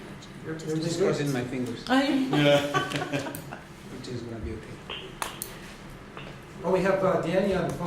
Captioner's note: background Conversation